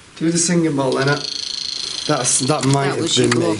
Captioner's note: Rem chirps